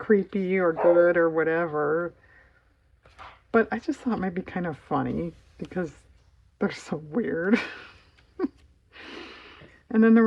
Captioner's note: laughs